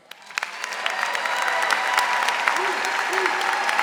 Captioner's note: audience applauding